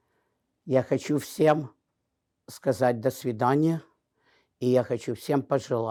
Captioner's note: speaking in a foreign language